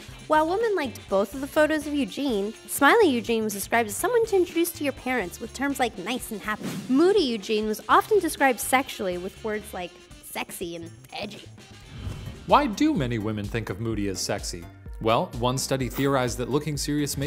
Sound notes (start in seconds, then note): 12.6 voiceover